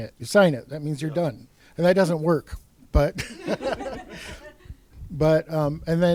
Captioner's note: laughs